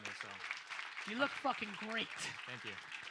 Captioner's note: audience applauds